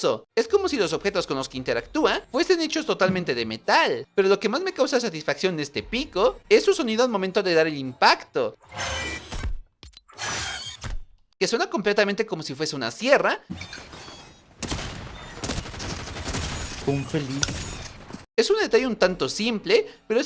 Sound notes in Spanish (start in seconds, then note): 10.1 Sonido de sierras